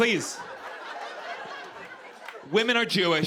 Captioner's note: laughter